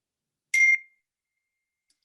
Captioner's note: phone beeps